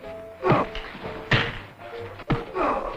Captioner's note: punching and groaning